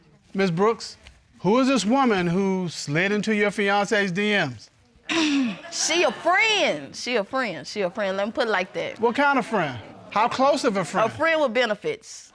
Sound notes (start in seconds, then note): 4.8 clears throat